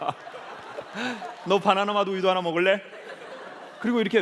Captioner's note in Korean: 웃음